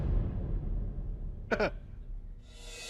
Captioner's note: chuckles